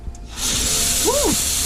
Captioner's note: sprays aggressively